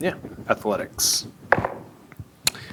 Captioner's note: dice rolling